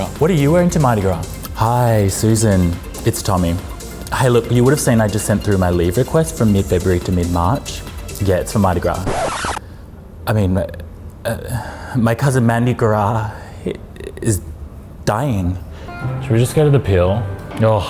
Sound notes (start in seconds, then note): 8.8 record scratching